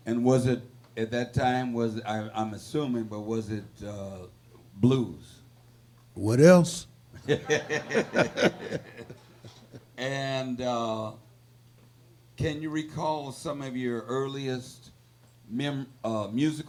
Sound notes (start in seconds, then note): 7.1 laughing; 7.2 audience laughing